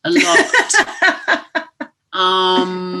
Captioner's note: laughter